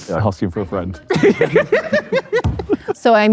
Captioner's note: group laughs